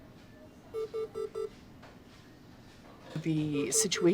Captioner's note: CPR beeps